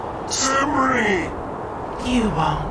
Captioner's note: yelling